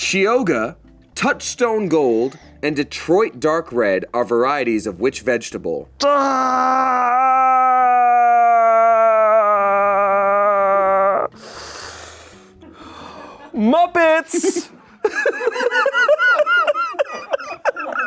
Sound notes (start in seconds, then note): 6.0 groans; 14.3 everyone laughs